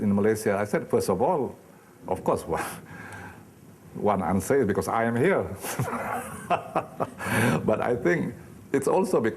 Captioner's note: laughing